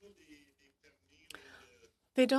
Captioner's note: speaking in french